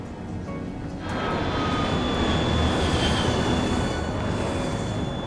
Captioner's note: plane engine roars